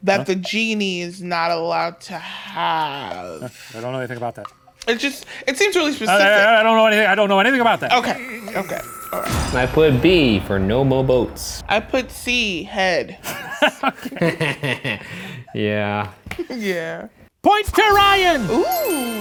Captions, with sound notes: that the genie is not allowed to have... - I don't know anything about that. - It just, it seems really specific. - I don't know anything. I don't know anything about that. - Okay, okay, alright. - I put B for "No Mo' Boats". - I put C, head. (laughing) - Yeah. - Yeah. - Point to Ryan!